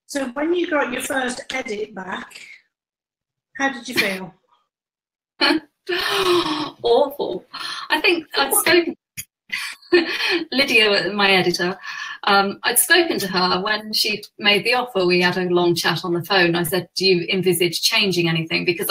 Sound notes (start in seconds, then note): 5.9 laughs